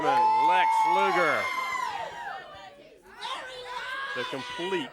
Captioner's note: crowd cheering